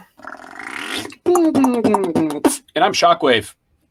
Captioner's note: beatboxing